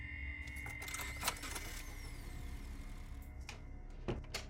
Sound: car engine whirring

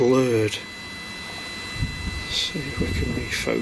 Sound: machine buzzing

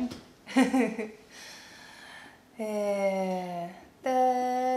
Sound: laughter

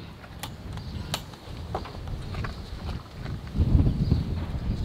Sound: clanging metal; wind blowing

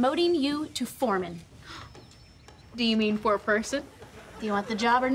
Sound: gasping

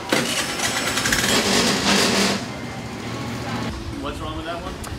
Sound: engine revs

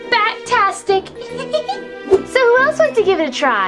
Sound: Vampirina giggling

